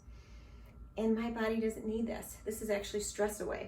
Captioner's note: inhales slowly